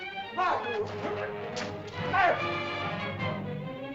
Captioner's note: dramatic music; shouting in caveman language; dramatic music